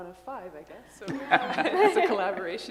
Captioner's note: laughter